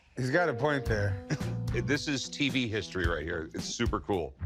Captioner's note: laughs